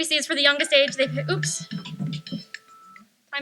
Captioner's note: phone plays melody